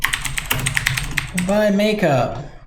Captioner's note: typing sounds